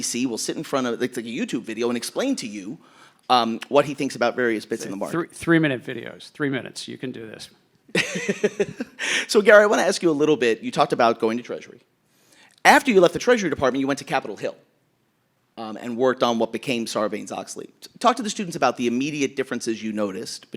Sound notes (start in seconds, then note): 7.9 laughing